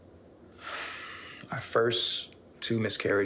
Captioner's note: sighing